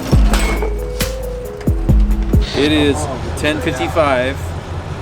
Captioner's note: metal clanking on pavement